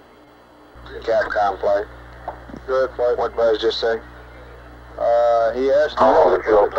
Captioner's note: mission Control Audio